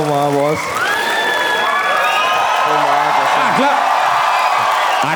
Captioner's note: crowd applauding